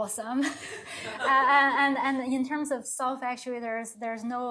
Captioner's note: chuckles